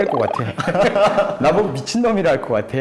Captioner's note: laughs